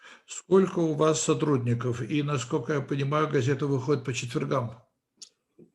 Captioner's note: translator speaking Russian language